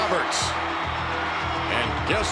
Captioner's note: crowd shouts